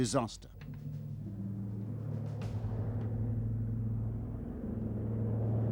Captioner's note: plane humming